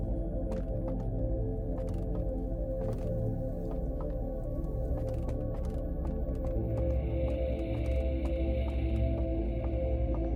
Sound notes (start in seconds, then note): 0.0 suspenseful music; 1.5 footsteps thudding